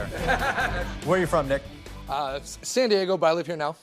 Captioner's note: laughter